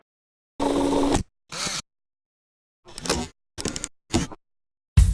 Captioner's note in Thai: เสียงเอฟเฟกต์